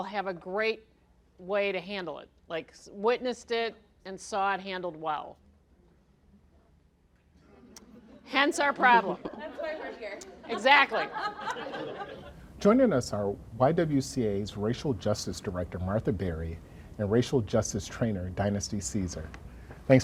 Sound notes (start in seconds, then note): 11.5 laughing